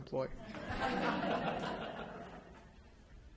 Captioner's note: laughter